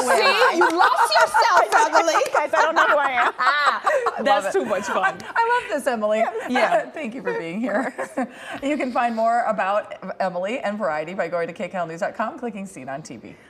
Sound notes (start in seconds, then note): 7.3 laughter